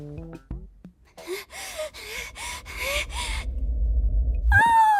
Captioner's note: panting